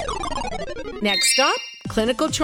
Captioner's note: sound effects